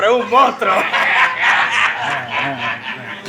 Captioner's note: laughs